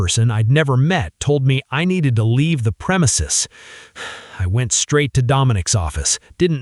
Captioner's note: shaky breath